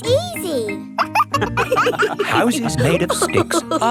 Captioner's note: wolves laughing